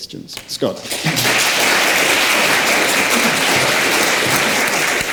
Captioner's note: audience clapping